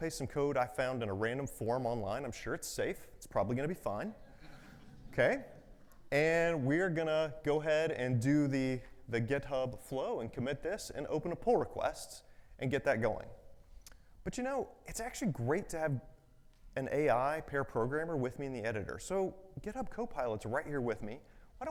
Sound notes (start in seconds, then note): 4.3 audience chuckles